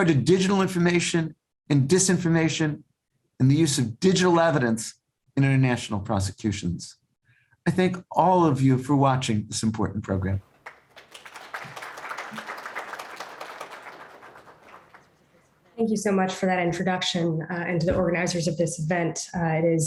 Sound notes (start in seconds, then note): 10.5 audience applauding